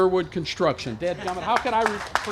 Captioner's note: applause